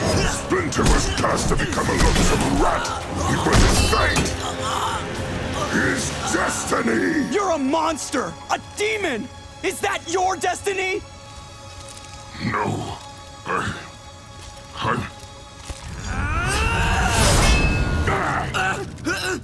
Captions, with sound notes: Splinter was cursed to become a loathsome rat! It was his fate, his destiny! You're a monster! A demon! Is that your destiny?! No. I... I'm- [grunting] [grunting]